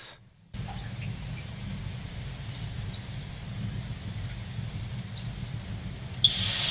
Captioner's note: water droplets; steam sizzles